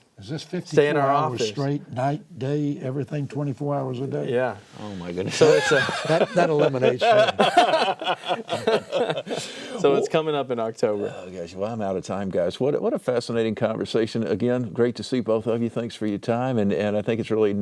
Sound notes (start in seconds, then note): 6.9 laughter